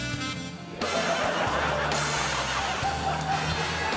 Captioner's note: laughter